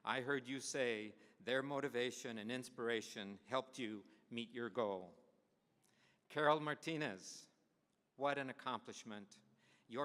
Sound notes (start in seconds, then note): none